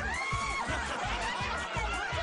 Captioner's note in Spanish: gritos